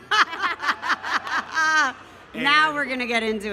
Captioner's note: laughing